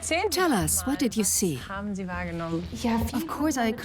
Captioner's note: in German; dubbed in English